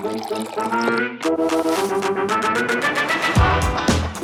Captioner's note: coffee pouring